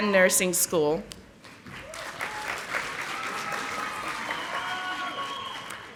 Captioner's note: audience applauding